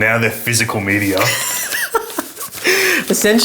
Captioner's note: laughs